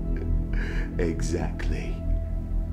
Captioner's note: chuckles